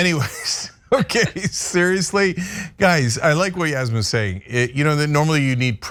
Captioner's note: laugh